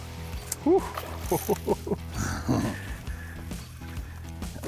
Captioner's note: laughs